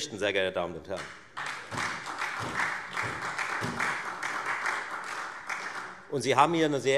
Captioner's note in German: Beifall Freie Demokraten und SPD